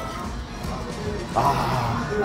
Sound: smelling

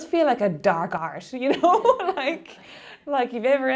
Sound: laughing

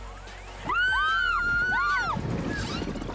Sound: screaming - loud voices; swoosh

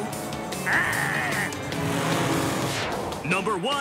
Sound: 2 growls

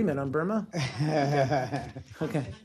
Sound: laughter

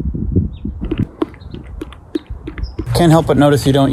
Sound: munching

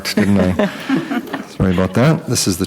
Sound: group laughing

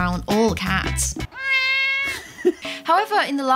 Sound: cats meow

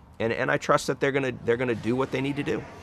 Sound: speaking Spanish

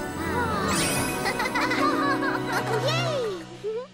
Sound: Pinkfong chuckles

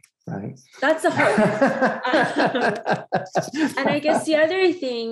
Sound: laughs

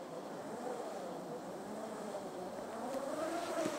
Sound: rope sound

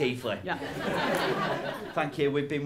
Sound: laughter

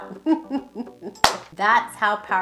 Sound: laughs

